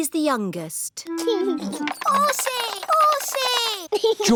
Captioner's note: giggles